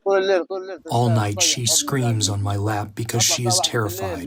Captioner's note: through translator